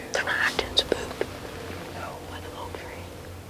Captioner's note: whispering